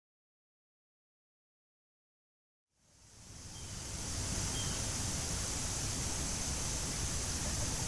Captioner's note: wind breeze